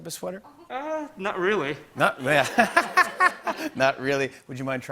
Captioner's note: laughter